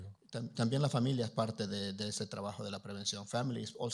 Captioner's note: Spanish language